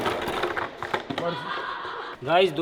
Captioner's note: laughing